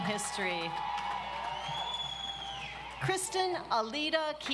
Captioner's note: audience applauds